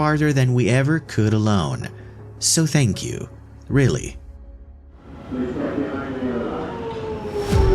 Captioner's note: PA announcement